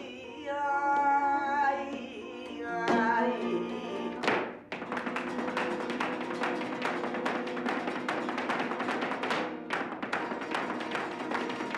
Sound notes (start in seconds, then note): 0.0 guitar, singing; 0.8 clapping; 6.0 guitar, foot tapping